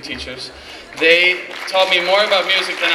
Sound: clapping

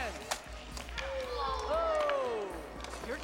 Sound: splattering

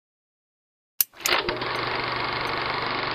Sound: click; film reel spinning

